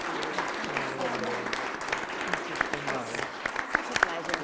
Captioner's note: applause